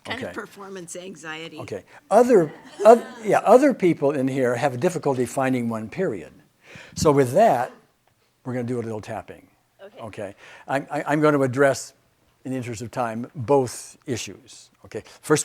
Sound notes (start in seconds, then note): 2.1 audience laughs